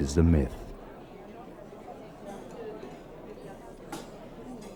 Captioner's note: people chattering